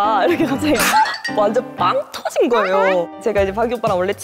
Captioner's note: pfft!